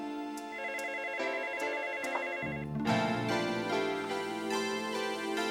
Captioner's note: gentle dreamy music; telephone ringing